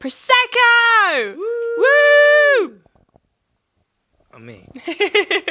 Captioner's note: whooping